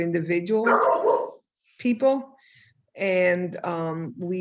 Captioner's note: dog barks